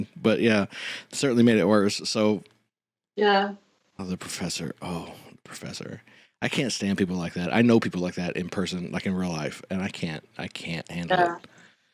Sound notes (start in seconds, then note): 4.1 irritated